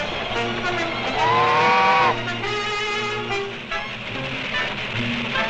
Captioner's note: train horn blows